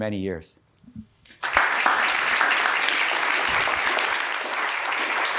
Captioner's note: audience applauds